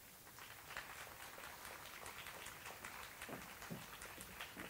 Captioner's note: audience applauds